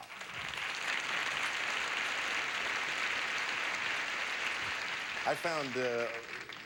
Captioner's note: audience applauding